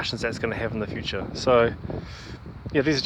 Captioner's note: sucks air in